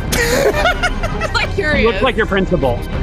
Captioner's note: laughing